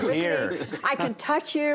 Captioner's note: laughter